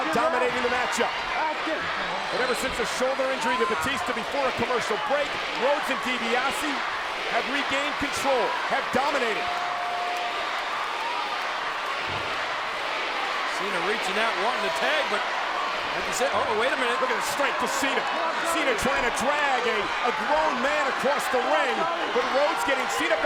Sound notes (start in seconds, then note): 10.8 crowd cheering